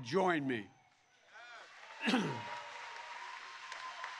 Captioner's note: applause